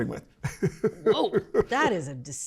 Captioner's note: laughs